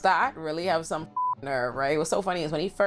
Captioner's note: beep